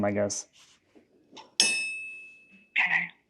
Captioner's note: metal clanking